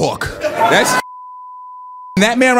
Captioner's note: beep